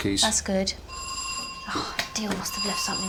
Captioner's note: doorbell